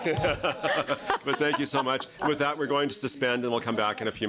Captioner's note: laughter